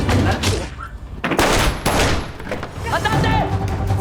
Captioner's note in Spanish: Disparos